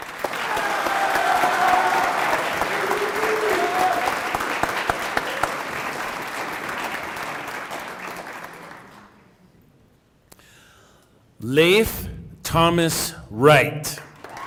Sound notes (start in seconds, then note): 3.8 applause